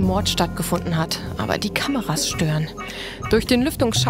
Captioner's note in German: Piepsende Laute